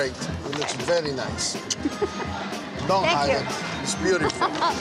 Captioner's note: laughs